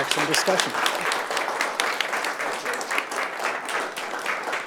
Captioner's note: audience applauds